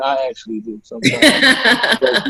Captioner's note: laughing